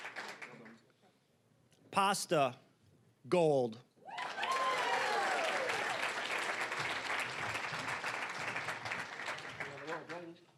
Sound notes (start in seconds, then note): 0.0 cheering, applause; 4.0 cheering, applause; 7.9 applause